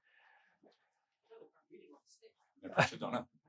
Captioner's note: faintly speaking